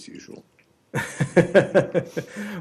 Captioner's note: laughter